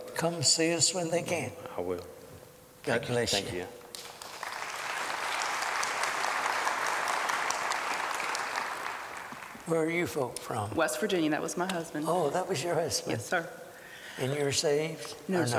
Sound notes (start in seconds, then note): 3.9 applause